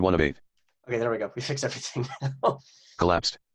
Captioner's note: laughs